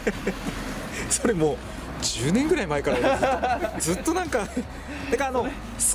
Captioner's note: laugh